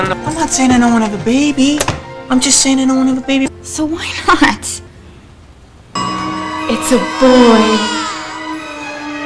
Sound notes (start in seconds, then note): 6.0 ding!; 6.0 echo; 6.4 cries